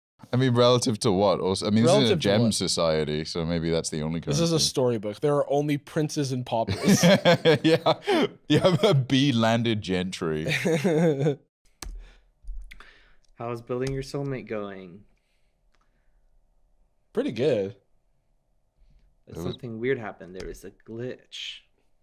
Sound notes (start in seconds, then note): 6.8 laughing; 10.8 laughing